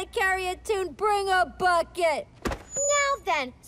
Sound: microphone screeches

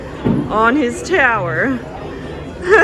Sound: laughing

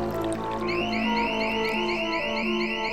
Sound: alarm is sounding

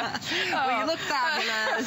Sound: laughter

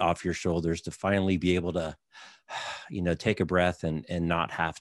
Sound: breathes out

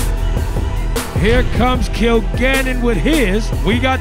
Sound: balls dunking

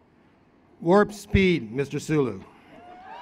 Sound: cheering

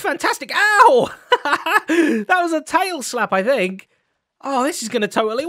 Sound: laughs

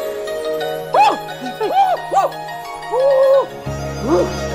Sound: shrieking

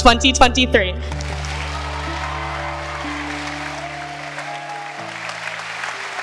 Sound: cheering

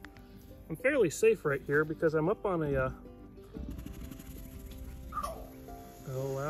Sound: alligator starts growling and hissing

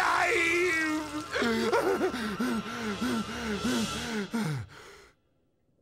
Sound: panting

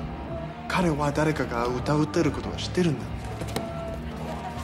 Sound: Akira speaks Japanese

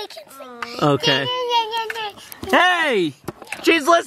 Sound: vocalizing

